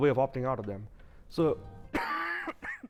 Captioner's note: coughs